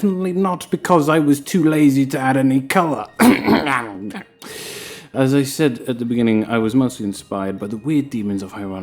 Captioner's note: cough